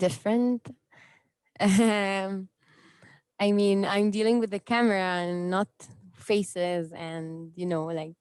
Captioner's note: chuckles